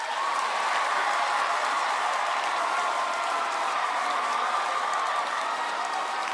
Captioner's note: crowd cheering